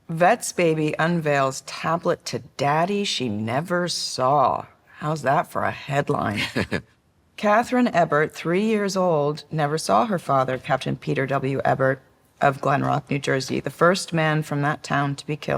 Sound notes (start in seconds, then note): 6.4 chuckles